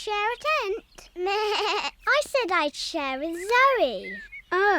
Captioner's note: bleats